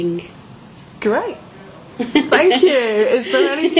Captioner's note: laughing